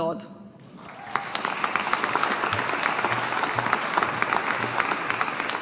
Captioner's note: audience applauding